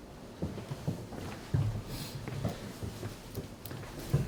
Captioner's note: golpeteo de pies